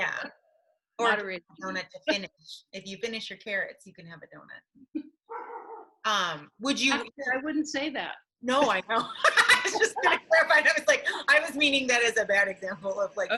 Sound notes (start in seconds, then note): 5.3 dog barking; 9.2 laughing